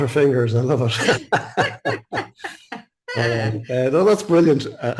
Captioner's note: both laughing